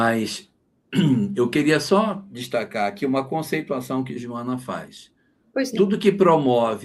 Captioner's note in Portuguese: limpando a garganta